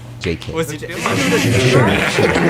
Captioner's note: giggles